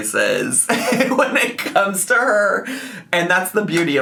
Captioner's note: laughs